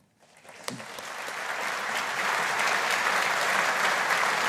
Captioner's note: audience applauding